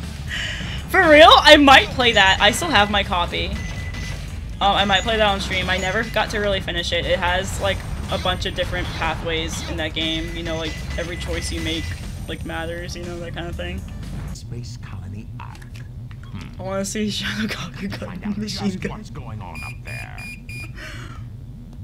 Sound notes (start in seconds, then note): 0.0 giggles; 17.9 giggles